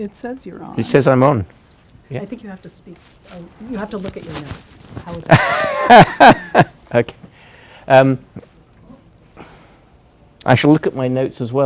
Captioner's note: laughs